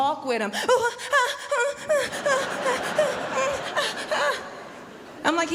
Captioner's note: oohing noises